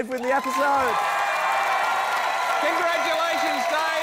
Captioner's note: cheering, applause